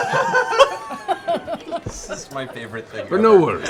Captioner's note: laughter